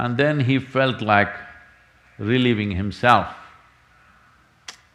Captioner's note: none